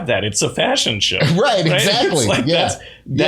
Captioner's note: laughter